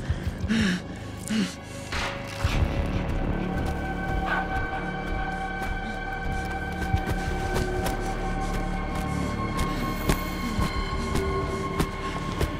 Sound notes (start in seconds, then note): 0.0 gasping; 2.3 clattering